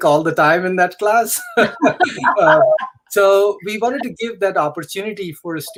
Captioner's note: laughter